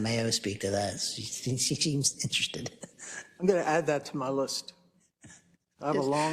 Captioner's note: laugh